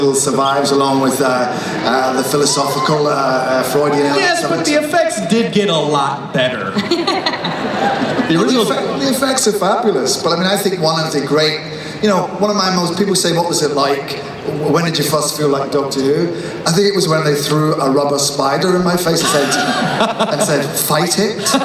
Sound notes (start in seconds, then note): 4.6 voiceover; 6.7 laughing